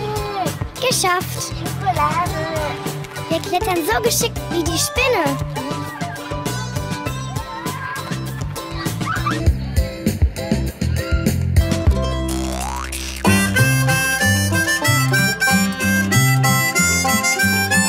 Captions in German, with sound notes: Geschafft! Schokolade! Wir klettern so geschickt wie die Spinne. (Jubel und Lachen im Hintergrund) (Heitere Musik)